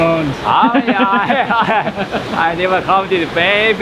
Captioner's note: laughing